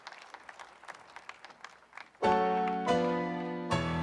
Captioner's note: applause